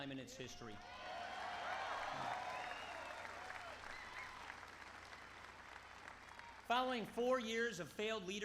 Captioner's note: applause